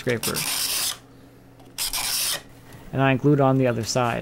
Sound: wood scraping

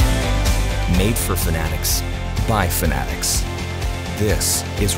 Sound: voiceover

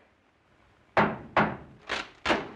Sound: pounding on door; wood breaking

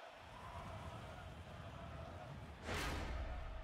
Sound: chanting

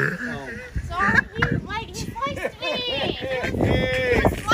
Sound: laughing

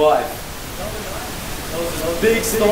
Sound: static noises

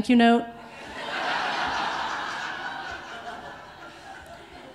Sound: audience laughing

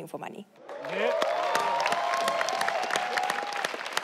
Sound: audience cheering

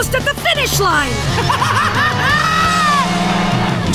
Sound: laughing

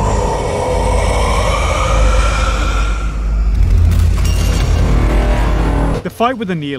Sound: mach roar

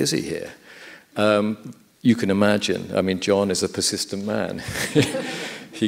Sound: laughs

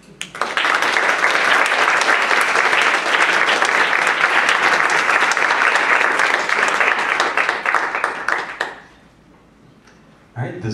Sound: applause

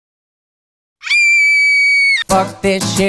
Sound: high pitched girly screaming

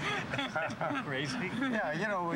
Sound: chuckling

